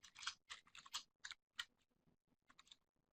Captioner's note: typing